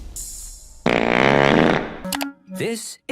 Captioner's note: loud fart sound effect